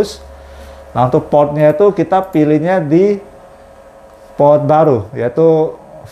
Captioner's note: clicking sound